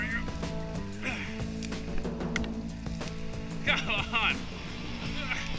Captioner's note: grunts